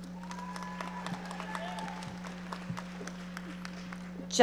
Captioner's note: audience applauding